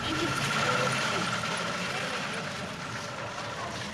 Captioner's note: car throttling